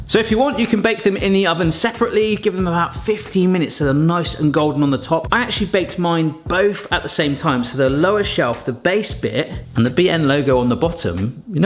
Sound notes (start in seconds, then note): none